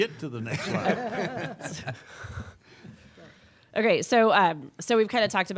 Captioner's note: laughing